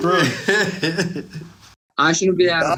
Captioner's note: laughs